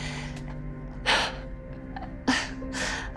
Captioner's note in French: inspiration et expiration profondes; sanglots